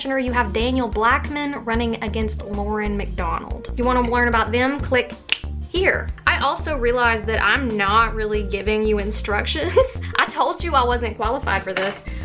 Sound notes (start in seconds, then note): 5.2 snap